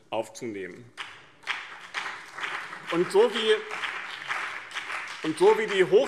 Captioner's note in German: Beifall BÜNDNIS 90/DIE GRÜNEN und CDU